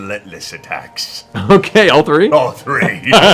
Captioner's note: laughs